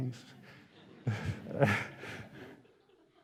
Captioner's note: laughter